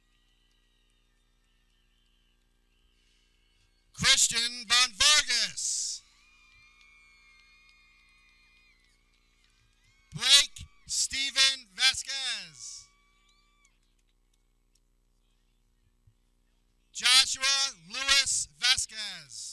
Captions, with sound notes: (people cheering) Christian van Vargas (people cheering) Blake Steven Vasquez (people cheering) Joshua Louis Vasquez